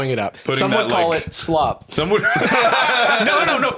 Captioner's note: all laugh